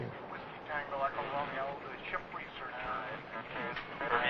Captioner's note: voices over radio